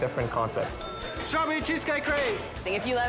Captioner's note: bell dings